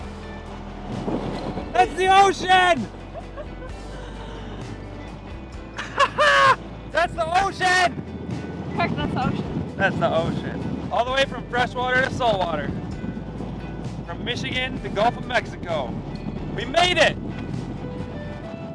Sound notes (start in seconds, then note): 3.2 laughing; 5.7 laughs